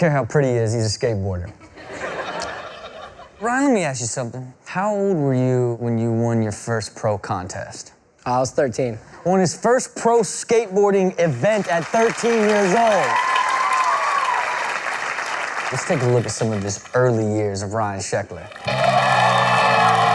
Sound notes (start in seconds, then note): 1.7 laughing; 11.5 cheering; 18.4 clapping